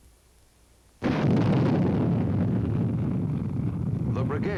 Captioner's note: booming